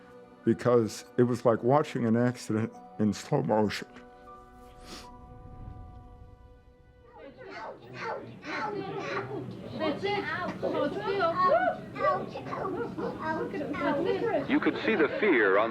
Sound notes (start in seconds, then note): 4.7 sniffs